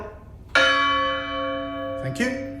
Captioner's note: bell chimes